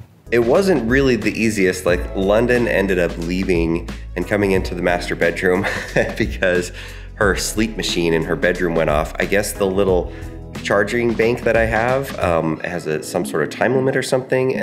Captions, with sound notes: It wasn't really the easiest, like London ended up leaving and coming into the master bedroom (laughing) because her sleep machine in her bedroom went off. I guess the little charging bank that I have has a some sort of time limit or something